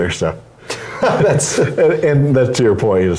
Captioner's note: laugh